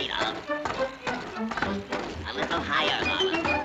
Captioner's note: rollerskates clunking